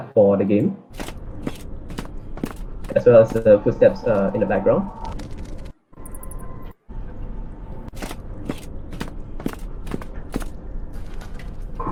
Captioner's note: ambience and footsteps SFX